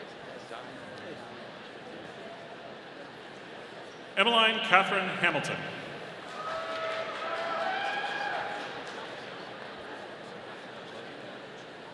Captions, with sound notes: Emmaline Katherine Hamilton. (audience applauding)